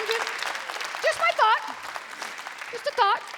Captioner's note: applause